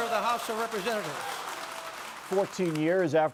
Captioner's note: applause